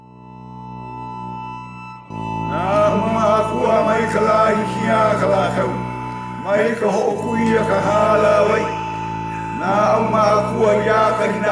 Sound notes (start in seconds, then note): 0.2 upbeat music; 2.8 people speaking in foreign language